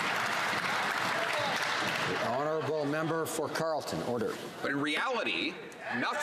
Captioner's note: some Applause